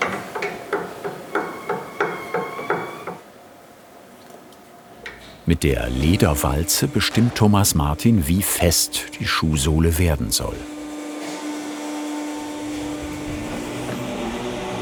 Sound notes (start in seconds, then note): 1.4 something squeaks; 10.9 rattling